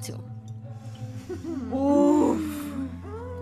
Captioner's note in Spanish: risas